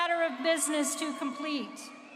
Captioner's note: applause